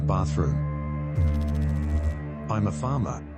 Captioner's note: electrical noise